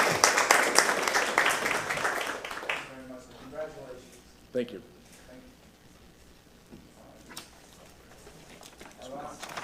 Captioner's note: applause